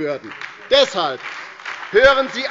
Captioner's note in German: Beifall bei der LINKEN und der SPD